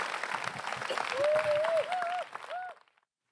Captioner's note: applause